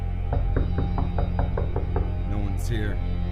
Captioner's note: knocking on the door